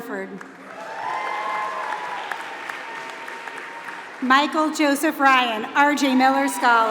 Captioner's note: applause